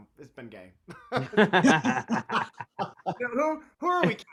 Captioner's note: all laugh